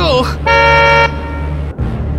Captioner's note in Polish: klakson